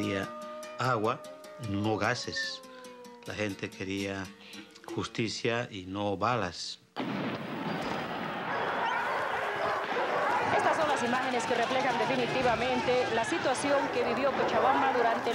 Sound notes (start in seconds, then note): 7.0 explosion booming; 10.7 speaking foreign language